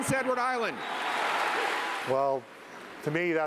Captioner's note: cheering